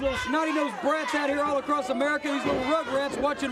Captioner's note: crowd cheering